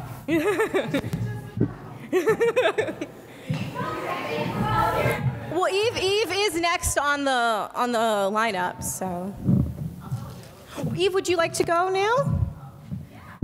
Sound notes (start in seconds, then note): 0.2 laughs; 3.4 audience chatting